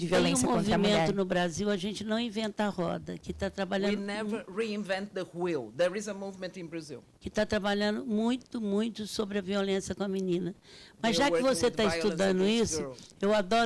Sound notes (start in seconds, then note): 0.3 speaking Portuguese; 7.5 speaking Portuguese; 13.4 speaking Portuguese